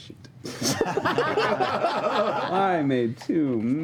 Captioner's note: laughter